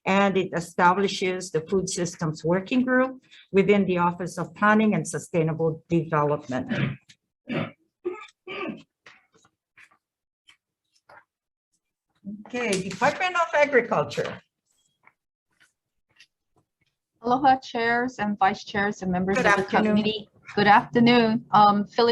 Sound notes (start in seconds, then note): 8.0 man coughs; 10.9 paper rustling